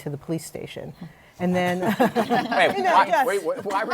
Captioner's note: laughter